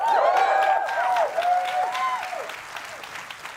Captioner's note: cheering